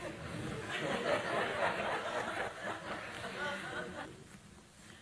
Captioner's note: audience laughing